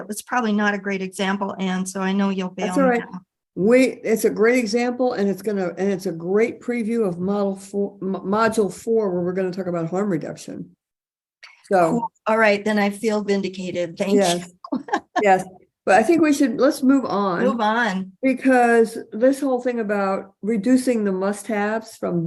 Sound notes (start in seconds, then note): 14.6 person giggling